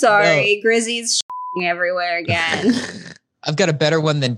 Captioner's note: beep